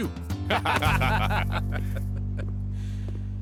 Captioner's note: laughing